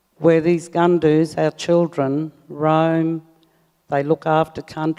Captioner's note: speaks native language